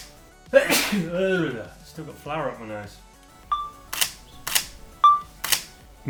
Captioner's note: sneezes violently